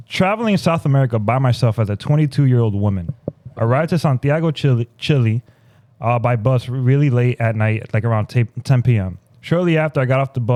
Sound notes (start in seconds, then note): none